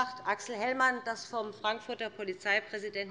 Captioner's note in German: none